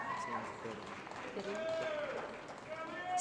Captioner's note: applause